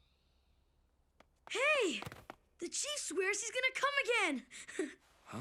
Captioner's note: chuckles